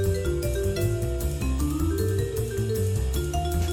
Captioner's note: none